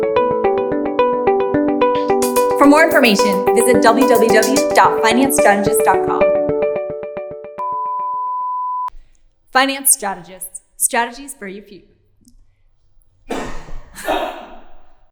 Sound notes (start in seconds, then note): 7.9 beeping sound; 13.3 banging sound